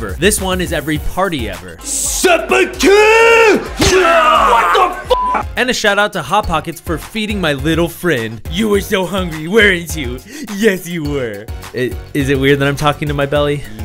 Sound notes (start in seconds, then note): 3.4 groaning; 8.4 babyish voice